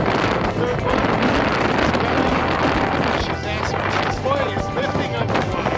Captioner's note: wind noise